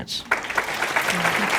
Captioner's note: applause